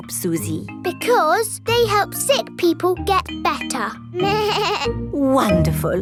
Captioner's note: bleats